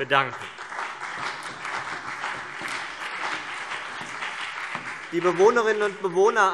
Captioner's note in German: Beifall CDU und BÜNDNIS 90/DIE GRÜNEN